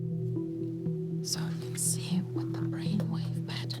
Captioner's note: whispers